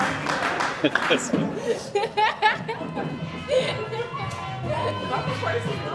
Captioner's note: audience Laughing